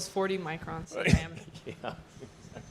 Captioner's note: scoffs/ laughs